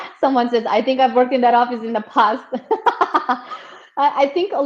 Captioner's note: laughs